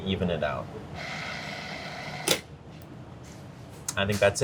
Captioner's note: processor whirring